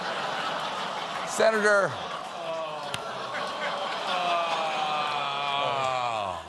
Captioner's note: laughter